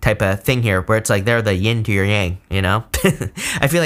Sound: laughs

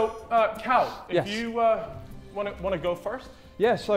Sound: none

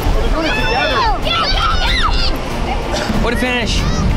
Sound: screaming

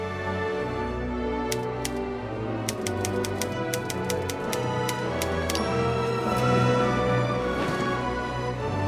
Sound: typewriter clicking; feet marching

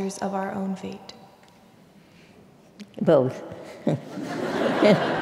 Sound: laugh

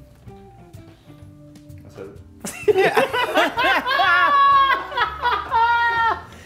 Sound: laugh

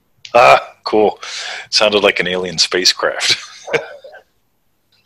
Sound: chuckles

